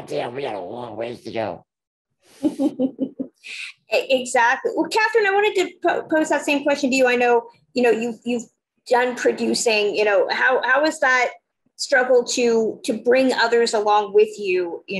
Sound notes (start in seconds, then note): 2.4 laughing